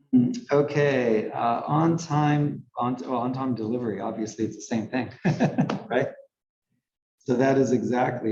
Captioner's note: laugh